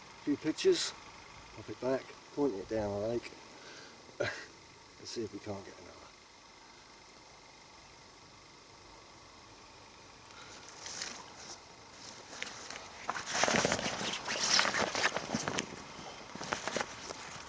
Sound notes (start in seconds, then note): 4.2 laughs